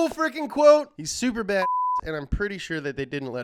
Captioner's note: beep